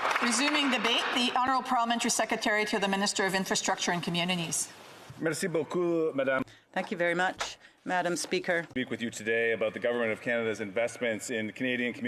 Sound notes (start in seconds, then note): 9.3 speaking in French